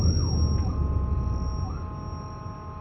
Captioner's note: distant sirens, honking